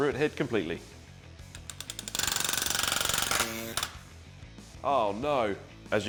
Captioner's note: rivet gun grinding